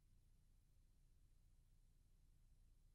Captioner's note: none